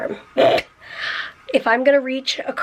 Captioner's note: snorts